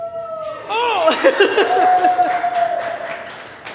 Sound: applause

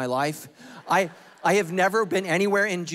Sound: congregation laughing

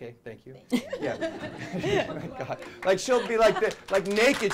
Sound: laughter; applause

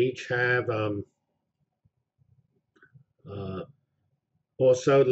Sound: pause

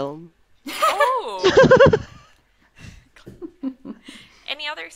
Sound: laugh

